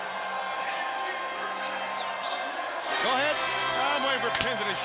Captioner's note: crowd cheering